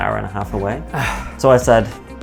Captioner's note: exhales